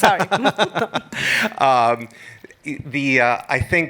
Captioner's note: laughs